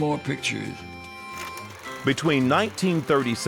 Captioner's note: film projector clicking